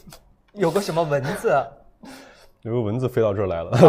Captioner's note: laughs